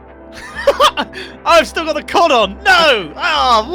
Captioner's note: laughs